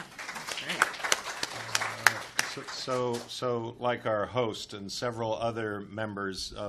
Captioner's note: applause